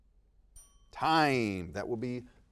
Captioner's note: bell dings